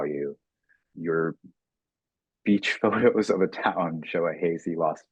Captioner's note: chuckling